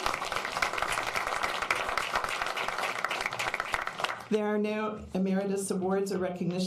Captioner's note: applause